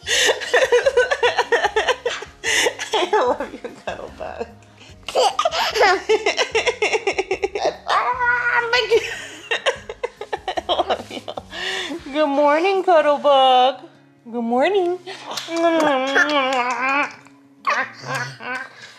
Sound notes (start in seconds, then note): 0.1 laughing; 15.4 kissing